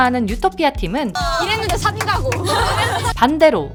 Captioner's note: laugh